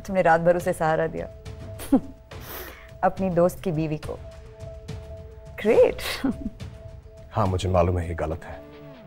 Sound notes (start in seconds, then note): 1.8 chuckles; 6.3 giggling